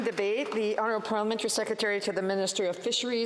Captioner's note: applause